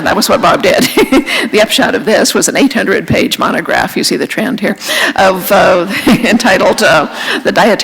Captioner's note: laughter